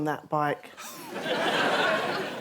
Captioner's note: laughter